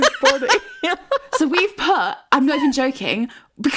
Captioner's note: both laughing